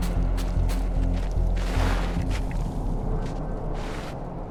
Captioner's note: body crunching